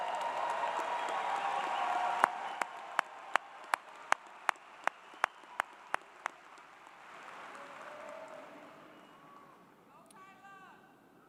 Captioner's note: cheers and Applause